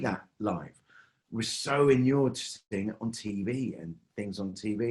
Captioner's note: mic cuts